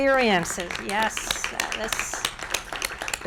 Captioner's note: applause